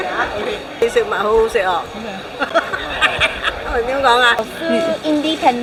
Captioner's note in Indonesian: Hahaha